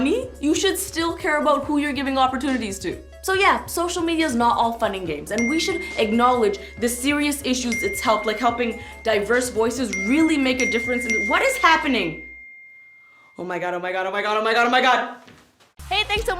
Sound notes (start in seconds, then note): 5.2 phone chiming